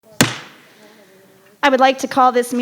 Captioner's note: hammer thumps